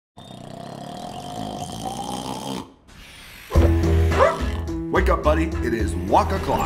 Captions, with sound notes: - [snoring] - [barks] - Wake up, buddy. It is walk-o'clock.